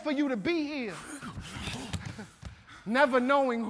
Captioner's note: group panting